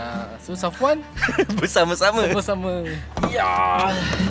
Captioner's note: laugh